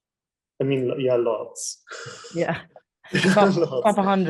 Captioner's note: laughing